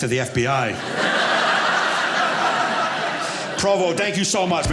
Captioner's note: audience laughing